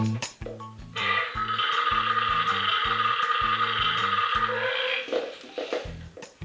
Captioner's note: burps